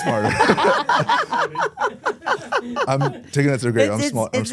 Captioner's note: everyone laughs